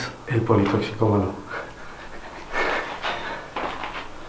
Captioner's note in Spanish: Risas